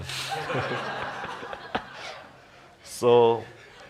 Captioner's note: laughter